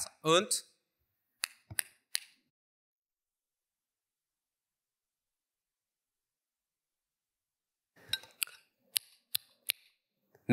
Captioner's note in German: Klicken